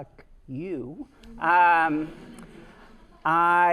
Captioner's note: students laughing